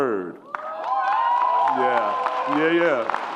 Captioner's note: audience applauds and cheers